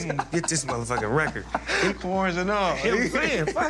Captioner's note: laughs